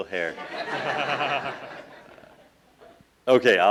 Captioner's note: laughing